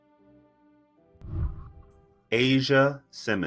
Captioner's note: whooshing